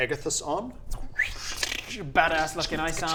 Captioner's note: tszzstxhshmm